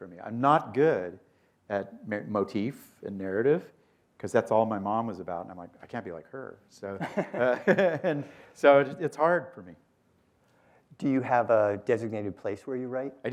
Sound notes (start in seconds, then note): 7.0 laughter